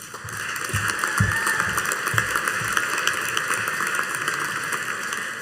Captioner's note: audience cheering and applauding